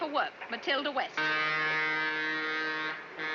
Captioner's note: horn blaring